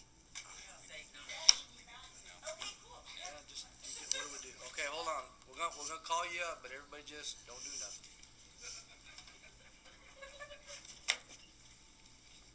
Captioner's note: laughter